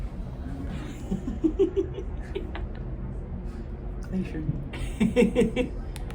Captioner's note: giggle/laughing